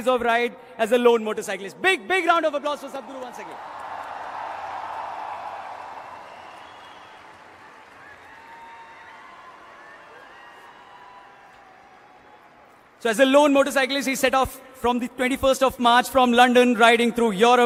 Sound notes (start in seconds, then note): 9.3 cheering/Applause